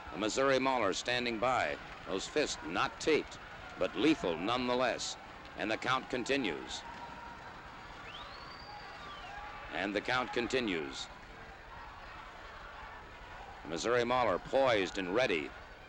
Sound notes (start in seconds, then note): 7.8 crowd chattering; 12.0 crowd chattering